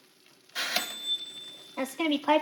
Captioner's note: oven bell dings